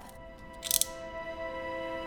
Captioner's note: click